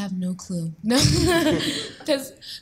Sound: laughing

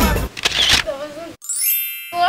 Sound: camera clicks; chime

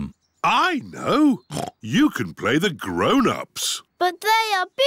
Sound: oinks

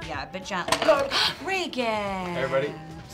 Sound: gasping

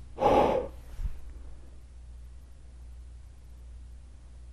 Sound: exhales deeply

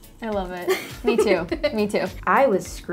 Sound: laughs

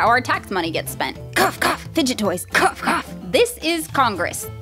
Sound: cough

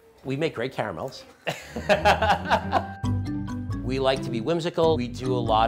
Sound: laughs

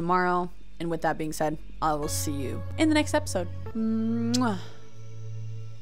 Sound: kiss

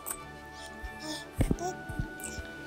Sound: cooing

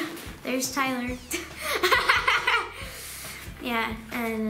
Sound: laughing

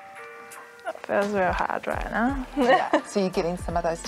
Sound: laughs

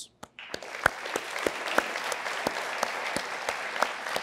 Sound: applause

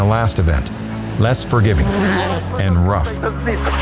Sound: engine zooms

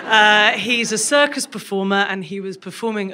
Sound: crowd laughs

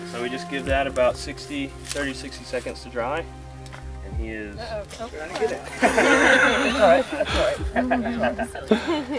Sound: laughter

